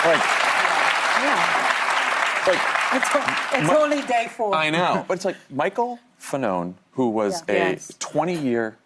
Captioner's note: applause